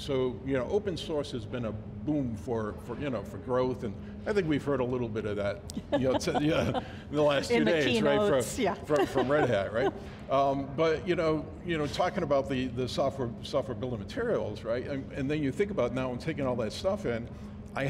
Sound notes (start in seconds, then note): 5.7 laughs